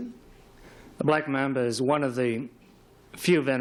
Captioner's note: none